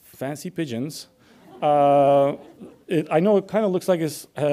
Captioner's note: audience laughs